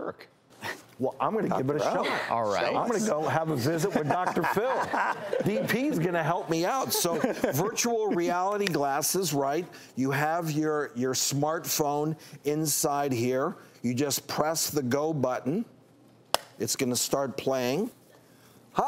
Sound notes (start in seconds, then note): 3.8 audience laughs